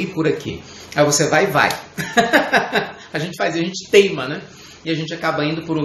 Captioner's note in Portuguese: Risos